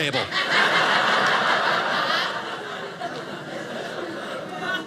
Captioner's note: audience laughing